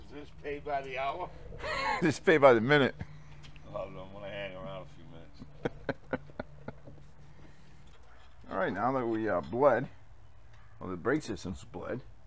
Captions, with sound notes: is this paid by the hour (laughing) it paid by the minute (laughing) Well then I am going to hang around a few minutes (laughing) alright now that we are bleed or the brake system is bleed